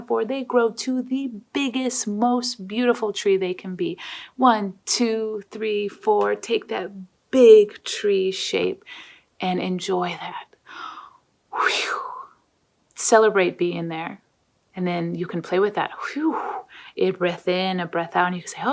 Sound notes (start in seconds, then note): 11.5 exhales; 16.2 exhales